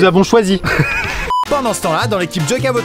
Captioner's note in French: rires